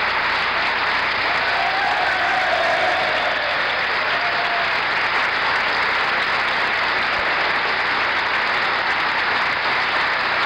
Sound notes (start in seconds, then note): 0.0 applause and cheering continues